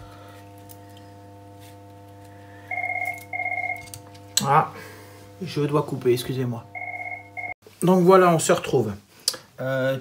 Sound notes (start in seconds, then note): 2.6 phone ringing